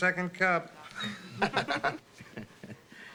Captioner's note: laughing